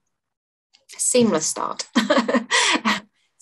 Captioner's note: chuckles